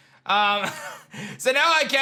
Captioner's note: chuckles